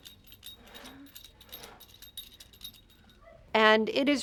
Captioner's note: bell jingles